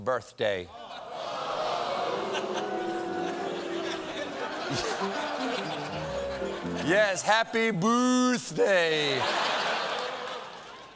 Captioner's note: booing